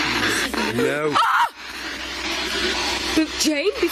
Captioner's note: screams